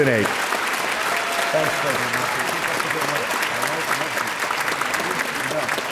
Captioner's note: audience cheering and applauding